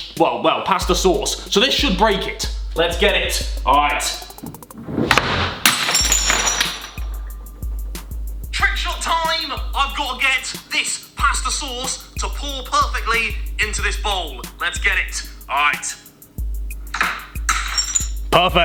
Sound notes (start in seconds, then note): 5.6 bowl crushes; 6.5 gentle music; 17.4 bowl crushes